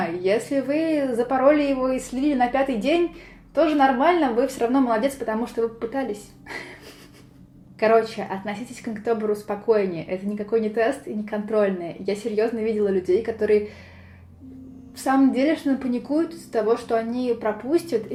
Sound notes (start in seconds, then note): 6.5 cute giggles from hehhe; 13.6 big inhale